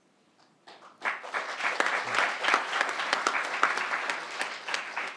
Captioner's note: crowd applauding